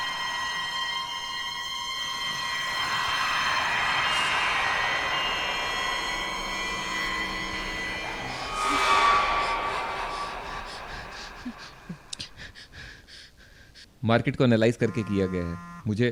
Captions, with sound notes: (Gasps) Report was made after analyzing